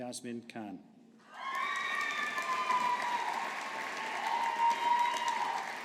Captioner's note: audience applauding